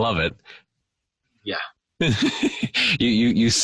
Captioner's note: chuckling